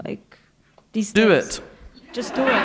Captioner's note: laughter